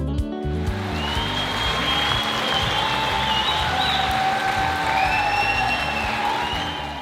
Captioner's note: upbeat music; audience cheering and applauding